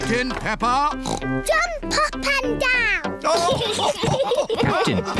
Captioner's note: oinks; all laugh